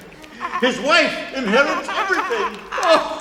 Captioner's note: chuckles